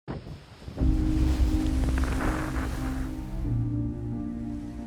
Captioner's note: wake thundering and hissing